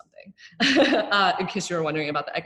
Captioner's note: laughing